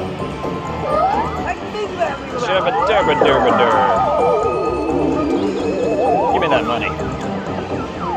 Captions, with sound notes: [drunken mumbling] Give me that money!